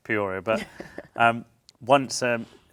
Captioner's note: laughs